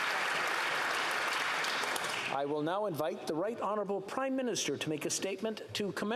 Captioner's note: applause